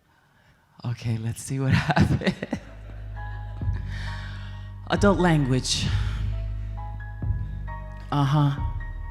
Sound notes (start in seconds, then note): 1.7 chuckles; 3.9 upbeat ambient music